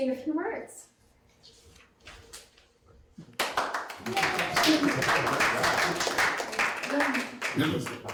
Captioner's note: audience applauding